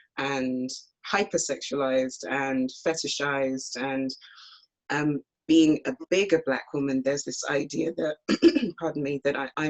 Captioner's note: clears throat